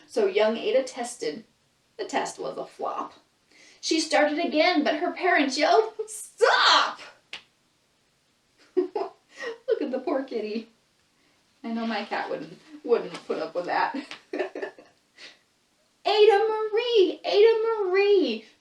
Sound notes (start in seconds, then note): 8.6 laughs